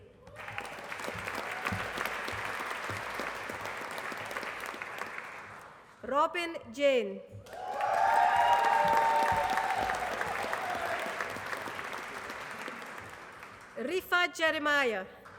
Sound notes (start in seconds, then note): 0.1 applause; 7.4 applause; 15.2 applause